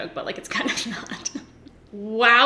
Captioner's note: giggles